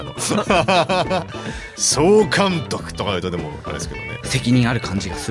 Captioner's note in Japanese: 笑い